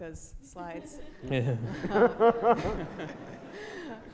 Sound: audience laughter

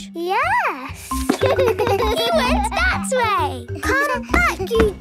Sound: giggles

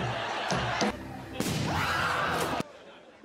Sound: scream

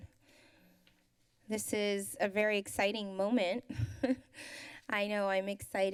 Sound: laughs

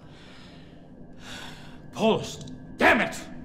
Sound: sighs

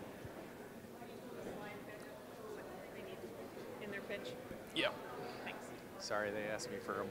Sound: general chatter

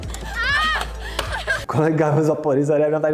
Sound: screams of inner agony

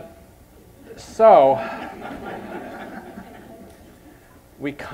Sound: crowd giggling

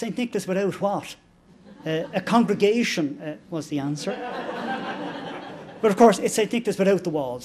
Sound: laughter

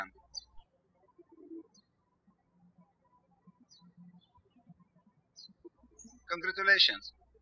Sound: birds chirping

